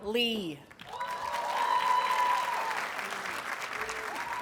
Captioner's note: audience cheers and applauds